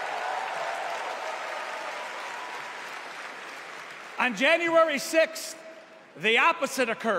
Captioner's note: cheers and applause